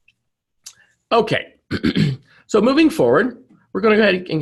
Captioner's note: clears throat